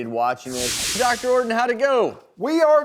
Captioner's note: whooshing